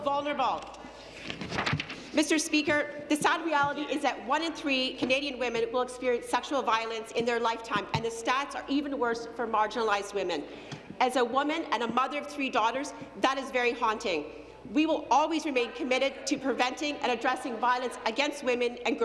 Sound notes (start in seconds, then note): none